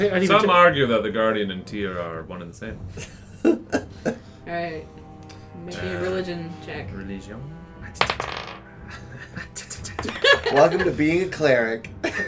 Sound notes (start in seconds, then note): 3.0 laughs, not jovilly; 7.2 in sort of a French accent for some reason; 11.8 chuckles